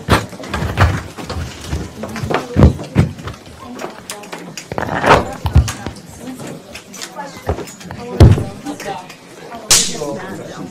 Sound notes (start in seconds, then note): 0.1 rustling; 2.1 chatter